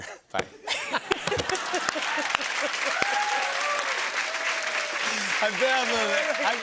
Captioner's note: laughter, cheers, applause